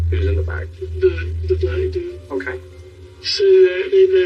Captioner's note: distorted v voice